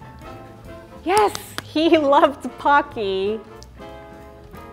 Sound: claps and laughs

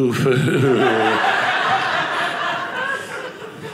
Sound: audience laughing

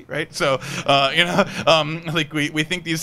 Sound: people laughing

